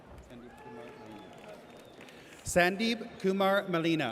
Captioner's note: audience cheers